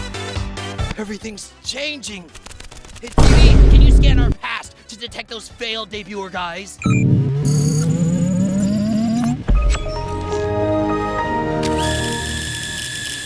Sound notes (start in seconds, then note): none